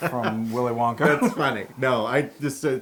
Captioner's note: laugh